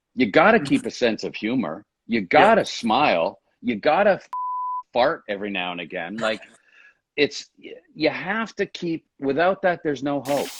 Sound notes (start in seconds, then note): 4.4 beep